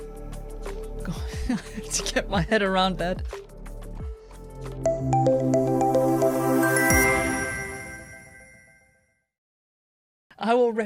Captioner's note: laughter